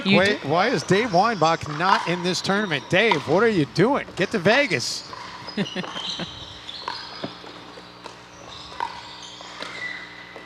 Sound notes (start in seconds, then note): 5.5 chuckling; 8.4 ball bouncing